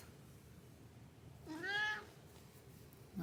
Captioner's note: mrow